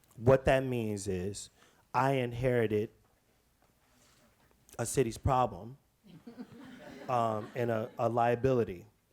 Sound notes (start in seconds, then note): 6.1 audience chuckles